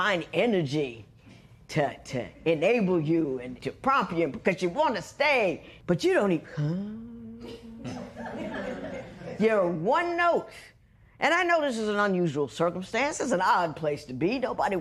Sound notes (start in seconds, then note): 6.5 humming softly; 7.8 laughter